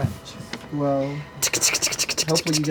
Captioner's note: skittering